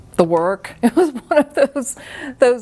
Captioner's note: chuckles